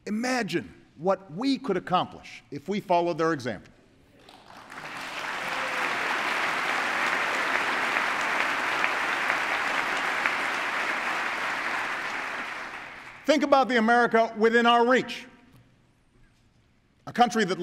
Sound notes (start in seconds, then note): 4.2 applause